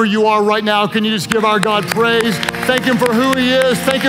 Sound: claps hands

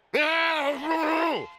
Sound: grunting, groaning

